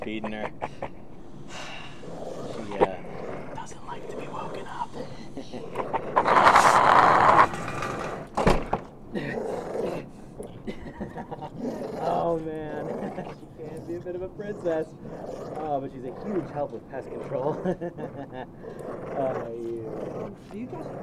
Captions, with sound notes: Oh yeah, we uh, have an office pool, we take turns feeding her [Larry whispering] She doesn't like to be woken up. [animal growling] -Oh man, she can be a bit of a princess! ...but she's a huge help with pest control!